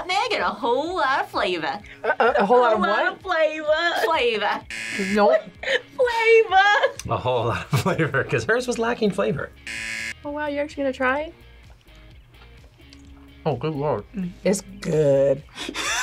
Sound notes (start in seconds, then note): 4.6 buzzer; 9.6 buzzer